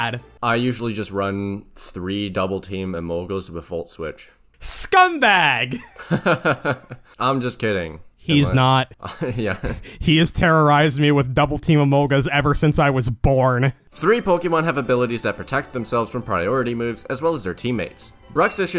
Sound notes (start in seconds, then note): 7.3 laughs